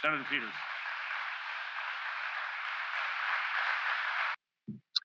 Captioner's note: applause